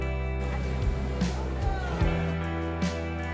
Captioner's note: crowd murmuring; fire roaring